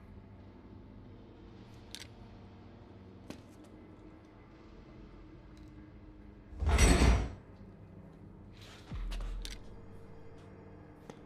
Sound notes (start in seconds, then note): 1.0 gentle tense music; 6.6 metal clanking; 8.0 gentle tense music